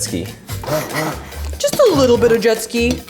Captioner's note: mixer buzzing